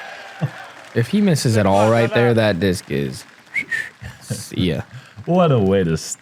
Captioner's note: whistles